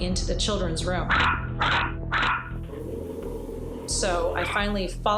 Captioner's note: dog barking